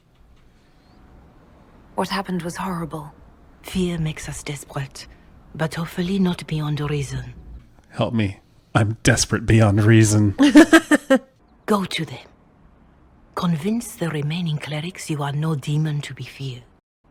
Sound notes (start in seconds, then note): 10.4 laughs